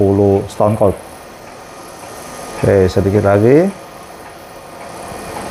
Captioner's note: printer machine noise